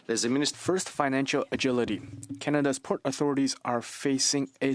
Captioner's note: speaking French